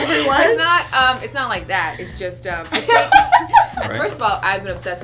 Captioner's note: laughter